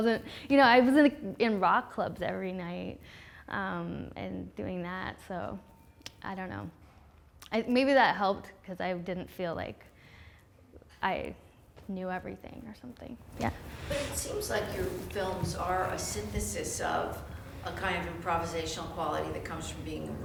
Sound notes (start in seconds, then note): 14.5 voiceover